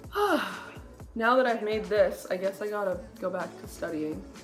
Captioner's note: sigh